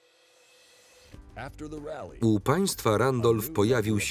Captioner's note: voiceover